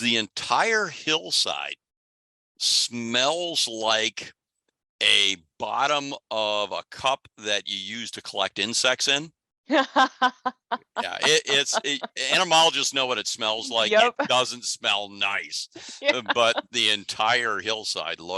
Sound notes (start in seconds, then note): 9.7 laughs